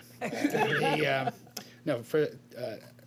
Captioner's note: laughter